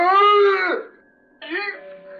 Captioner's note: screaming